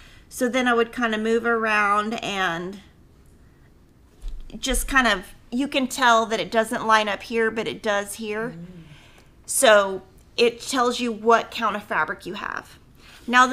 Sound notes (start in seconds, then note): none